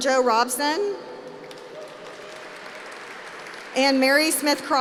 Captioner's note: applause